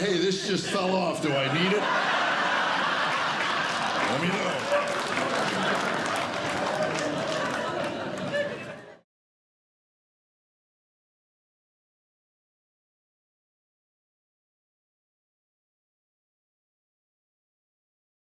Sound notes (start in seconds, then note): 2.0 laughter; 5.4 applause